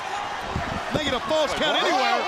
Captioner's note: crowd chatter